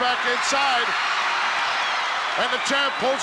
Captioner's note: crowd cheers